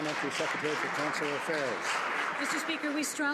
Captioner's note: some Applause